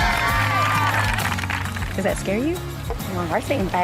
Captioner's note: team cheering